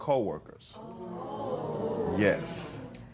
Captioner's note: spectators murmuring